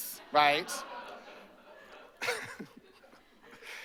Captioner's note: laughter